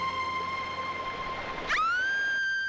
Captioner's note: Screams